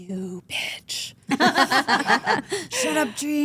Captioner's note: group laughs